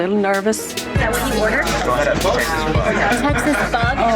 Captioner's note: chatter